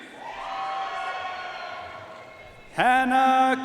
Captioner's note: audience cheering and applauding